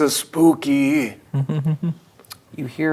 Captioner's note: chuckling